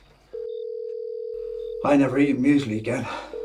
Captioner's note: telephone ringing